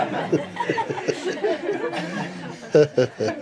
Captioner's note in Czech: smích